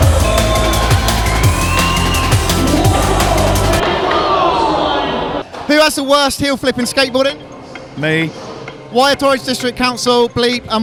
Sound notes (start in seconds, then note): 3.9 crowd boos